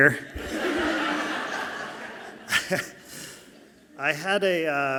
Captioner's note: audience laughing softly